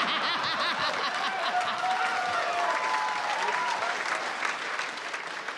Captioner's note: applause